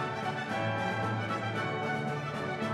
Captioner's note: cheers and applause